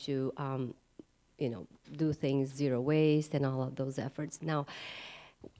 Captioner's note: inhale